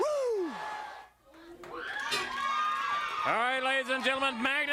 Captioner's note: crowd cheering